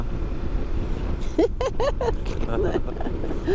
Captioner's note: laughter